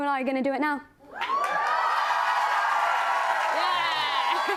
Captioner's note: cheers and applause; laughs